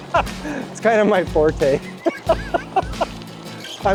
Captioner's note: laughing; laughs